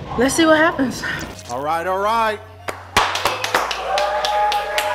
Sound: cheering; clapping

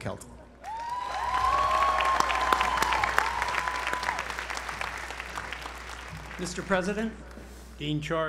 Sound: applause

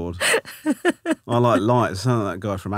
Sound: laughing

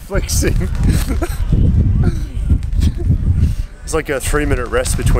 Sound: laughing

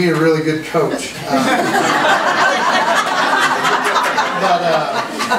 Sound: group laughs

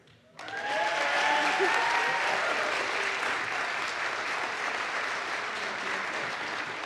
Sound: audience applauds; audience cheers

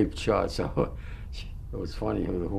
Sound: laughs

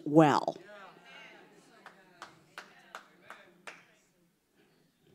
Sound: congregation chattering

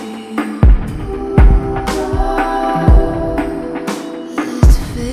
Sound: ooh

